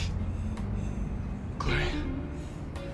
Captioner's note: shallow breathing